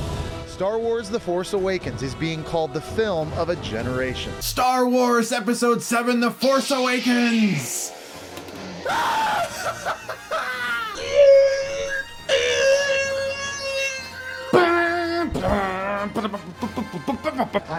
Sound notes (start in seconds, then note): 8.8 laughing like a madman; 11.0 making TIE Fighter sounds